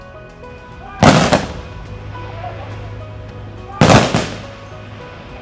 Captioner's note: gunshots firing